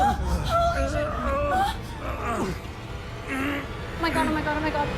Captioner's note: grunting